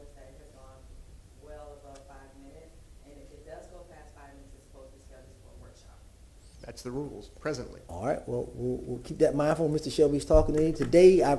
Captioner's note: off microphone